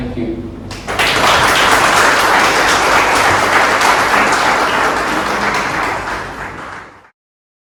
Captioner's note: clapping